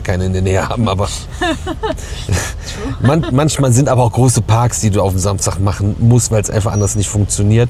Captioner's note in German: gelächter